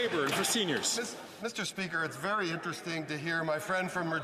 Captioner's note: some Applause